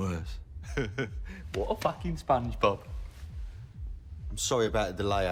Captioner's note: chuckles